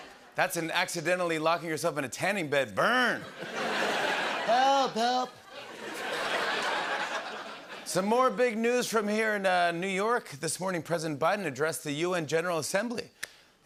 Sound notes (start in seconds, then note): 3.2 laughter